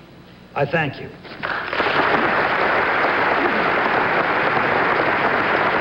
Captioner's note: audience applauding